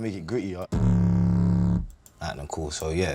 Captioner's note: tone playing